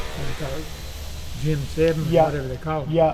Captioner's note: electric drilling